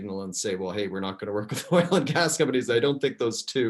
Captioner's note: laughs